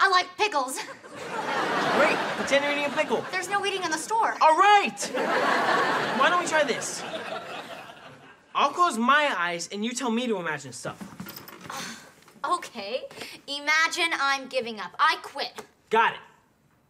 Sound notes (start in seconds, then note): 11.6 sighs